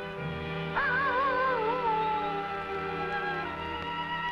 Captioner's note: animal howling